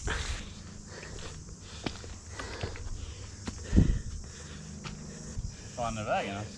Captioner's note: breathing like a gorilla